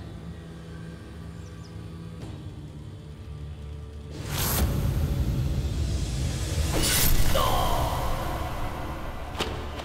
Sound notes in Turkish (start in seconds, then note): 6.8 Kılıç sesi